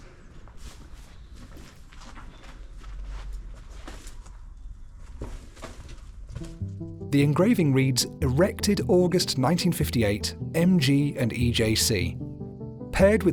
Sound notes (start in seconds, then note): none